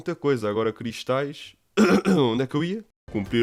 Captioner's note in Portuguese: tosse comprometedora